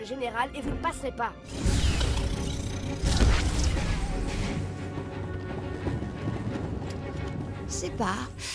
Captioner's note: combat sounds